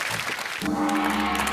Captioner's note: gong